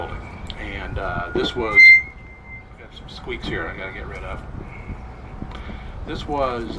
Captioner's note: mic screech